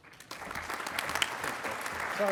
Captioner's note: applauding